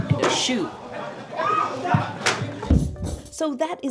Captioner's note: people scream